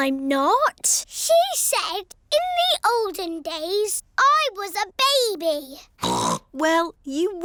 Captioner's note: snorts